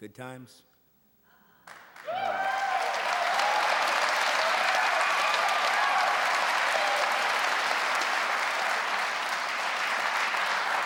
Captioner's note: audience cheering and applauding; audience continue cheering and applauding